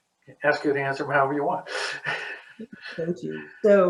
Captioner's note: laughs